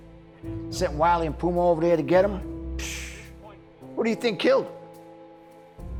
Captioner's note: scoffs